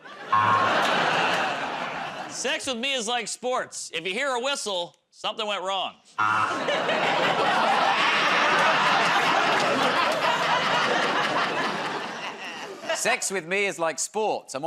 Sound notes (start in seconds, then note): 0.0 laughter, buzzer; 9.5 laughs; 9.5 laughter, buzzer